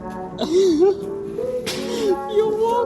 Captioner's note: laughs